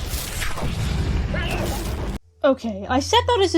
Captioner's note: electrocution noises